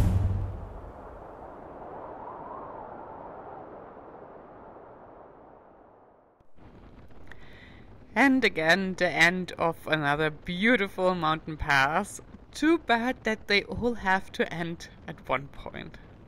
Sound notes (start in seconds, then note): 0.8 wind howling